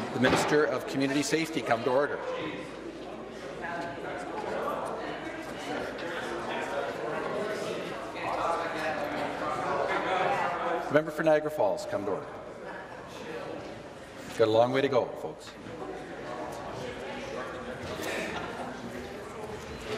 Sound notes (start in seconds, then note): 1.0 conversation din; 12.6 conversation din